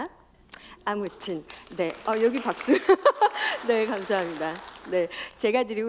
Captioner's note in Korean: 박수